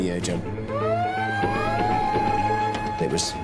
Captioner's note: alarm blaring